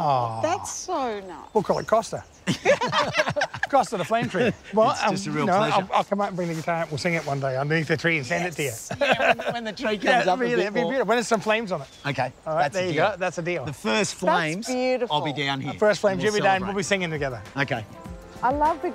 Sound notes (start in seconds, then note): 2.4 laughs